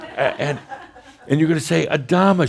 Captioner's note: a few chuckles